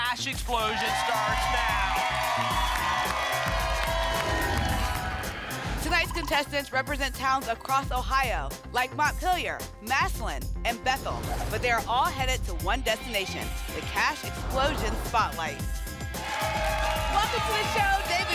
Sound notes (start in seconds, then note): 2.2 applause and cheering; 4.2 whoosh; 14.7 applause and cheering